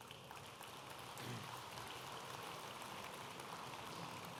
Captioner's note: audience applauding